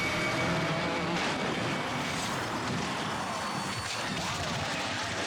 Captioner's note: race cars crashing